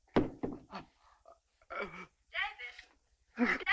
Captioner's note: phone thuds